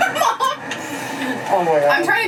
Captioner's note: laughs